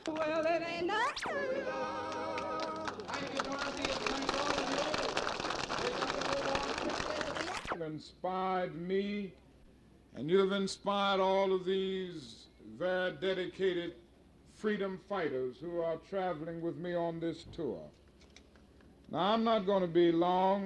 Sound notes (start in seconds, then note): 0.9 song ends; 3.3 crowd clapping